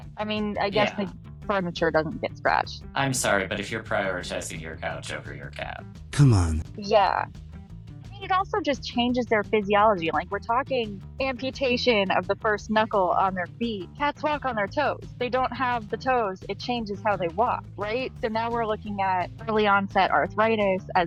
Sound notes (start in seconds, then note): 6.1 voiceover